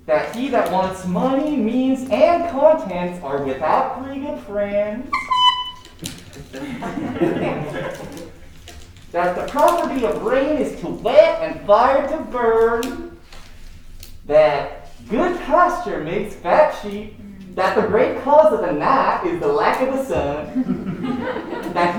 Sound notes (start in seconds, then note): 4.8 horn tooting; 5.8 crowd chuckling